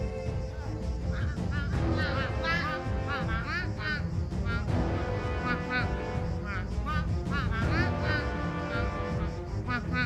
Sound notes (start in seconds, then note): 3.1 duck soldiers quacking